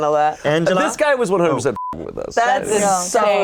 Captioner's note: beep